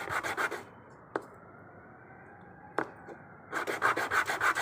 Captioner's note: sirens